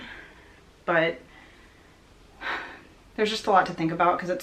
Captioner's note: sighs